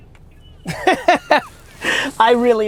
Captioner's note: laughs